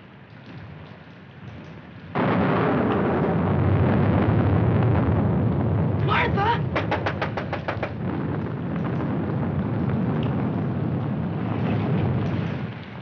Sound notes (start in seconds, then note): 1.3 thunder; 6.8 rapping at window